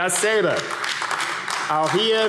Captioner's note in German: Beifall AfD